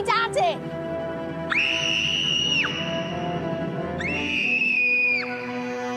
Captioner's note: scream